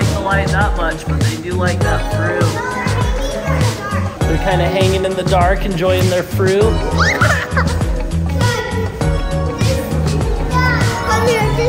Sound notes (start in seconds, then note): 6.8 laughing; 9.1 upbeat music